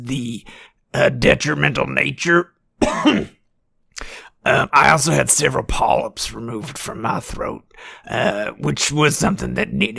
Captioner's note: cough